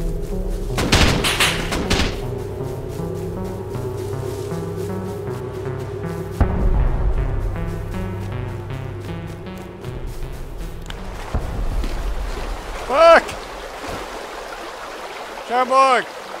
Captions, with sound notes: [Gunfire] [Dull boom] [Rushing water] Buck! Charborg!